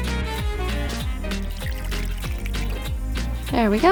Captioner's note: Vodka pouring into the cocktail martini shaker